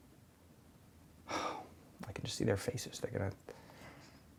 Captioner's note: sigh